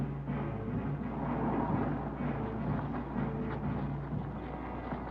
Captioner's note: car engine revving